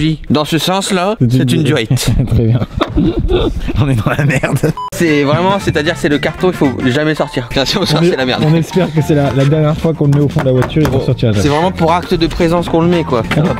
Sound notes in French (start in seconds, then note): 1.9 rires